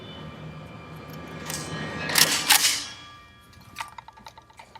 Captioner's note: sound of gun preparing to fire